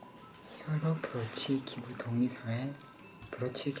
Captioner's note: whispering